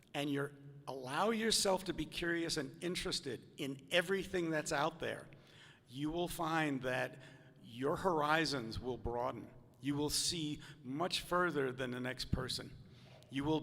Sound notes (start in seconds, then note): none